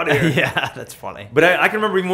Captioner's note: laughs